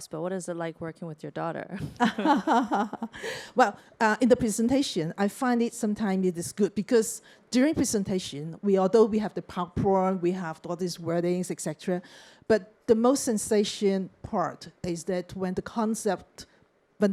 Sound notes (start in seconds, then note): 1.8 chuckles